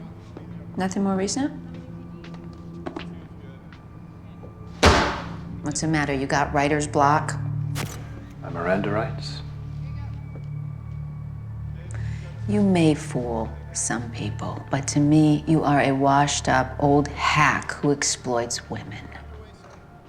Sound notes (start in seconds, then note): 1.4 officers chattering; 4.8 book slams onto the floor